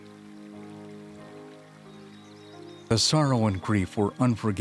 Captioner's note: birds sing; piano plays softly